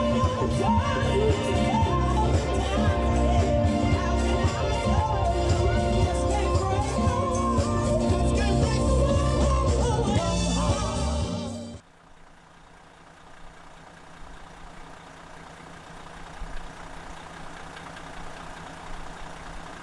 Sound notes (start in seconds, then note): 12.3 engine running